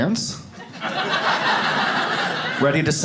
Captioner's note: audience laughs